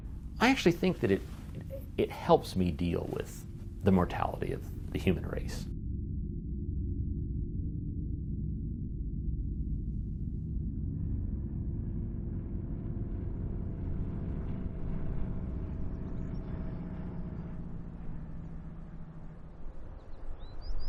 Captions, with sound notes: I actually think that it helps me deal with the mortality of the human race. (Background - Airplane engines)